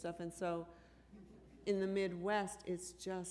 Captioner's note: chuckle